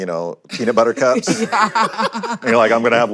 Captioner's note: laughter